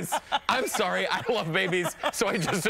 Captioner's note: laughter